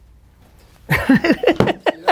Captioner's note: laughs